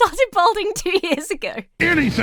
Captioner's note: laughs